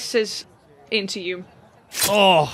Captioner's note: sounds of a knife slicing